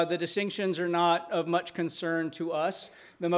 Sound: none

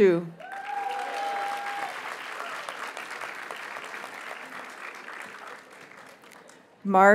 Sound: audience cheers and applauds

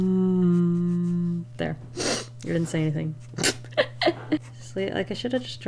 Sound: laughs

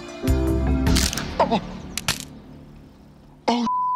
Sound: bones crack

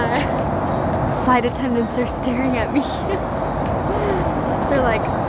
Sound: laughs; laughs

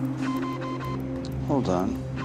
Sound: instrument beeps

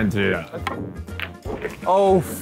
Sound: pool balls colliding

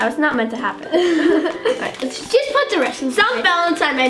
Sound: laughs

